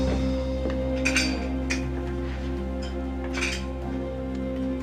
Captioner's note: metal clattering